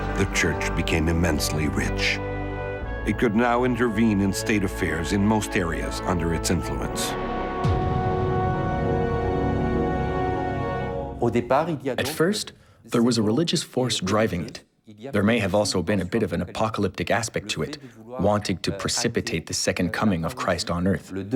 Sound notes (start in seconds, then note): 11.1 speaking in foreign language